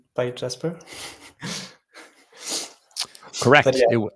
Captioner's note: chuckles